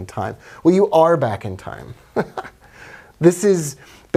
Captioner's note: laughs